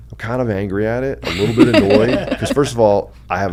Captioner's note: laugh